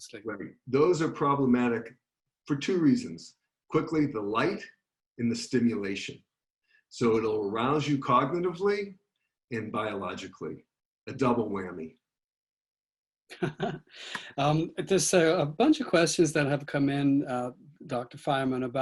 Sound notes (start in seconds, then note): 13.3 laughing